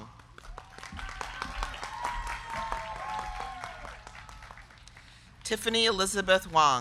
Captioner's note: crowd clapping; crowd cheering